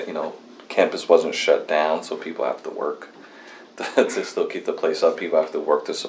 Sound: laughs

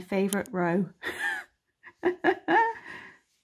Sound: chuckles

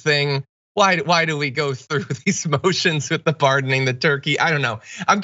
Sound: laugh

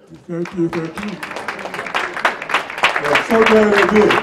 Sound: applause

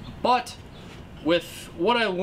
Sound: none

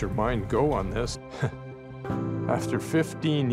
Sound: chuckles

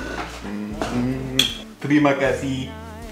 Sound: smooches

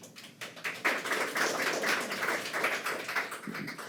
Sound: attendees applaud

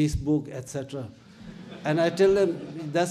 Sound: audience laughs

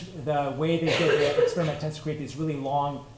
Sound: coughing

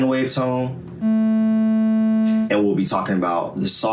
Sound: bass buzzing

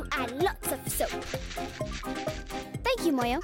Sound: grating

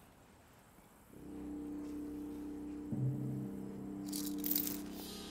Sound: birds chirping

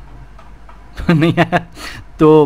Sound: laughs

